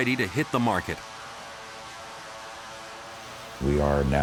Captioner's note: aircraft whirring